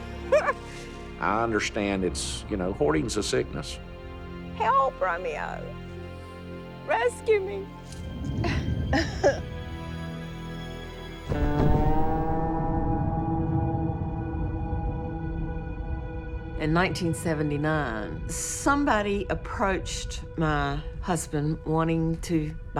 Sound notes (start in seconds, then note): 7.9 laughs